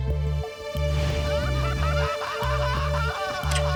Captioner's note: laughing